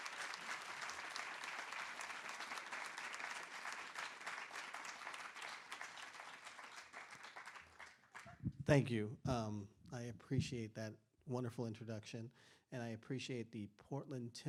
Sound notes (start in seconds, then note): 7.5 applause